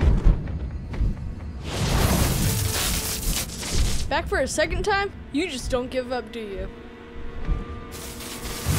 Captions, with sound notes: [Flash electricity] Back for a second time? You just don't give up do you? [Flash electricity]